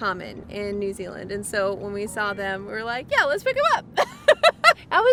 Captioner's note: laughs